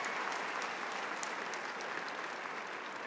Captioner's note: applause